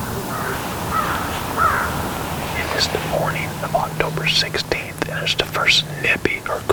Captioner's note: whispering